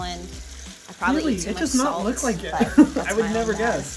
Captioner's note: laughs